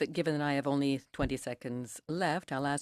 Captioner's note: speaking in French